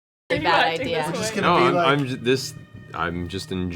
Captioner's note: laughs